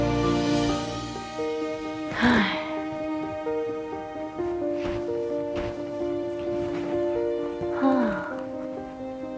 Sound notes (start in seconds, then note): 7.8 sigh